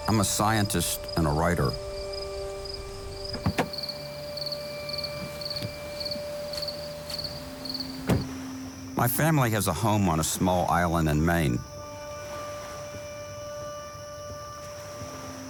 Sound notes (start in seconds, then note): 5.1 insects chirping; 7.9 door closes; 12.6 pensive music